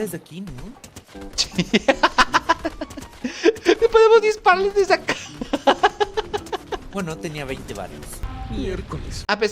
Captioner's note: laughs